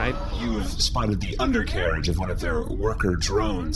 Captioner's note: whirring of head swivel